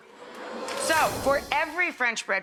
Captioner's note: audience oohing; air whooshing